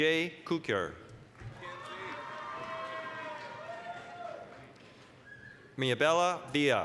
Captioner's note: applause, cheering